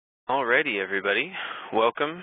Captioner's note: voiceover